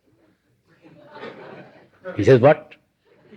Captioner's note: laughter